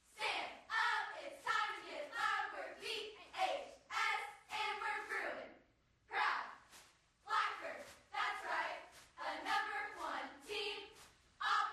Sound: reciting cheer

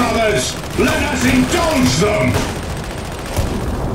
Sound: guns fire

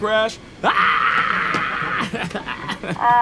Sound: laughs

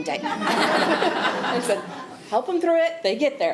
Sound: attendees laughing

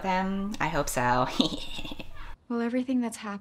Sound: snickers

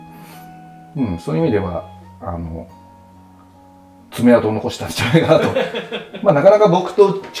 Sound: laughing

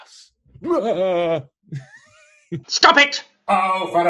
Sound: laughs

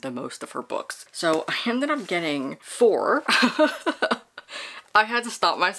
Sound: laughs

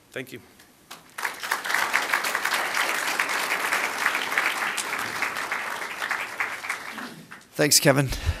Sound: applause

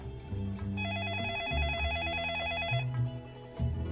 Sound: phone rings

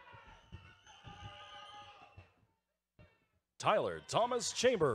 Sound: audience cheering

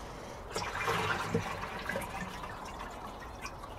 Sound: water gurgling

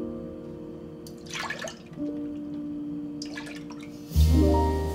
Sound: milk pours; soft gentle music continues

